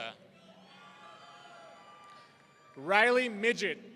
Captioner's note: audience cheering